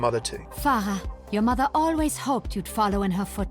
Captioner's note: voiceover